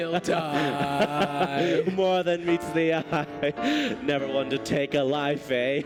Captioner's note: laughing